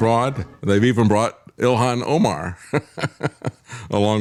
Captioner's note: laughs